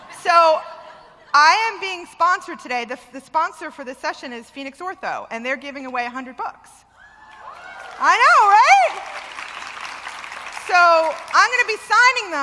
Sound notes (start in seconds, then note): 7.2 wild applause